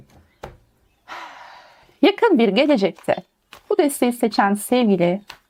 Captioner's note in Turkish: iç çeker